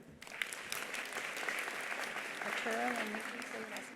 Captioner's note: attendees applauding